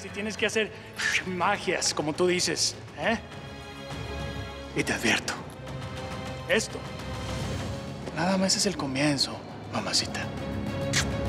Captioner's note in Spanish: silbido; suena un beso